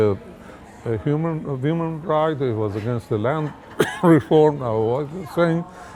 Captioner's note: coughs